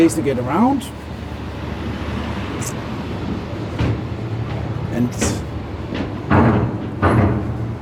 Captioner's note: sound on car boarding the ferry